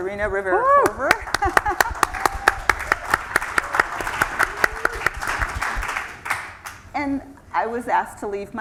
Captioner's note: applause